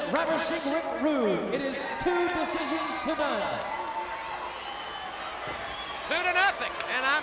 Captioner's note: applause